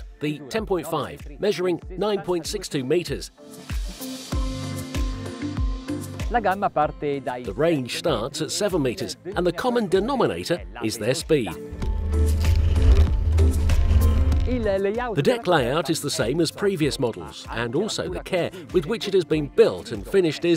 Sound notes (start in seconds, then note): 4.1 bouncy, chill pop music; 6.4 speaking in Italian